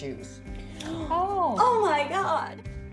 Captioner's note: various gasps